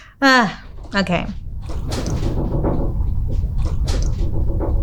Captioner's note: laughing; house rattling